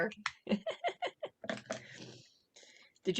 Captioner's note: laughter